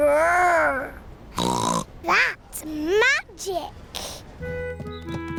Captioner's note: snorts